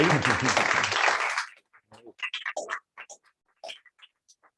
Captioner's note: applause